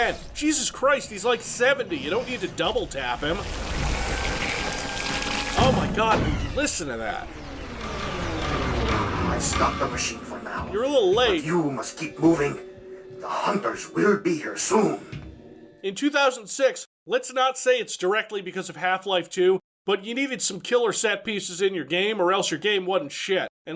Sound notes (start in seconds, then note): 3.6 machine sucking sounds; 7.4 machine shutting down